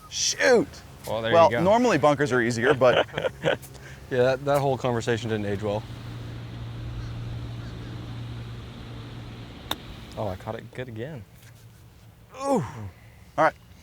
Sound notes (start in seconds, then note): 2.3 laughs; 12.3 groans